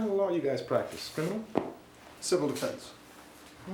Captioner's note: hat thuds